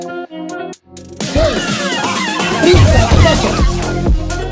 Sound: laughter

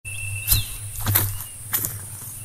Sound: footsteps

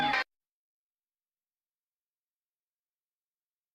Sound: silence

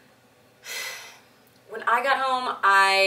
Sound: sighs heavily

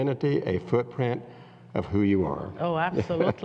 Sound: laughs

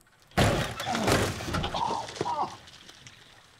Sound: door slamming open; gagging

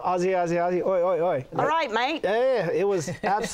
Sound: Australian accent

